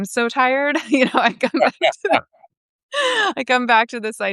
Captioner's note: all laughing